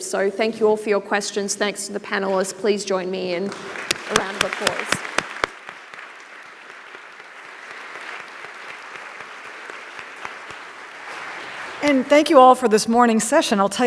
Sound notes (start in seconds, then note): 5.2 audience applauding